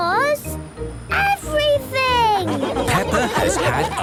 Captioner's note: laughing